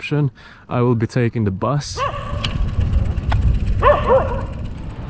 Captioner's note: dog barking